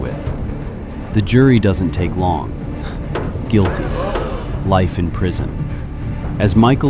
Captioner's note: gavel banging; scoffs